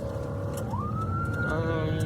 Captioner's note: siren blaring